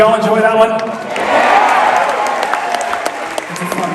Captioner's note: crowd